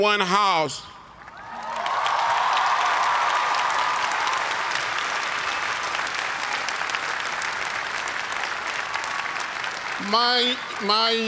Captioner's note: cheers and applause